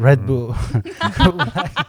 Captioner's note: laughter